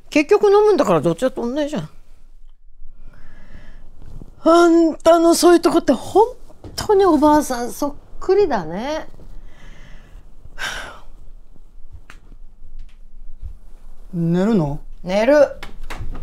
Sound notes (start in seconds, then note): 10.5 Mitsue sighs